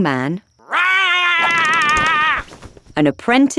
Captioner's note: Saul roaring